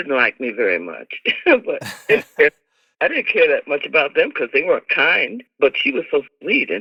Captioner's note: laughter